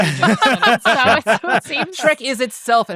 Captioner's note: laughing